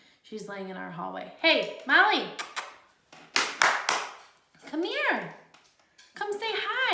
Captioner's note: clapping